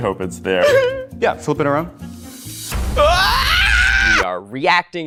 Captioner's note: screams